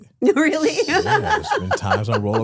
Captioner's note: laughs